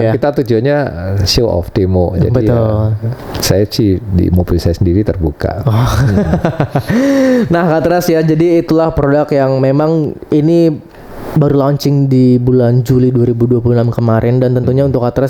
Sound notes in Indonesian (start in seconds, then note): 5.6 tertawa